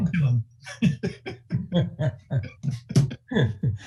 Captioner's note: laughing